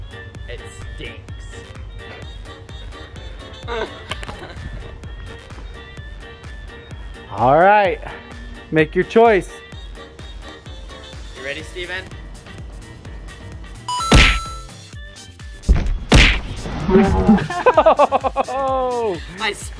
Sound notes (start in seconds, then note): 3.6 laughing; 5.6 upbeat music; 13.8 upbeat music; 13.9 successful ding; 17.1 laughing